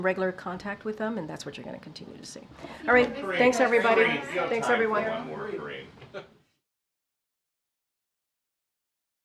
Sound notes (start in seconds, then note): 6.1 laughs